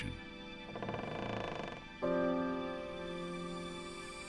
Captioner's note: loud creak